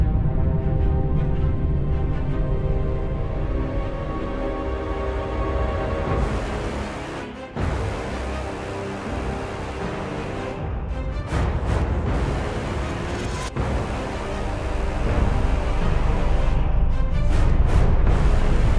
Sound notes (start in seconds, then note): 14.7 sun rumbling